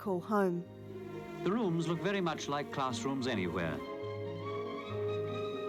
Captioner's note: archive voice-over